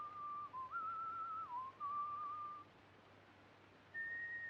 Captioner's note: whistling continues